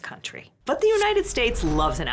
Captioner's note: air whooshes